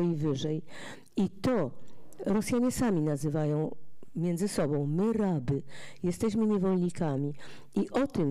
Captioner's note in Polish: fraza po rosyjsku